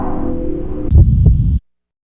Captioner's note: heartbeat sound